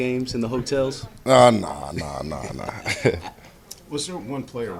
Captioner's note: laughter